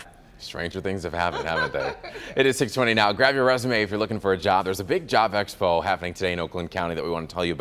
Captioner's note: laughter